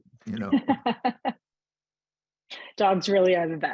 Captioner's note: laughing